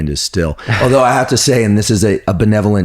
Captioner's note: laughs